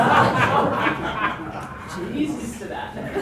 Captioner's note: audience laughs